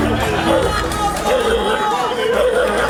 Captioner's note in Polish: bark